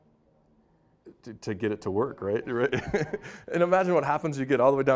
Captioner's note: laughing